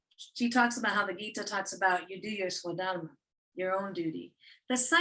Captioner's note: non-english speech